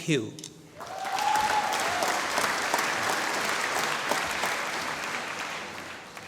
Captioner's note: applause